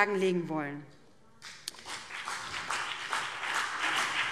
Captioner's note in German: Beifall BÜNDNIS 90/DIE GRÜNEN und vereinzelt CDU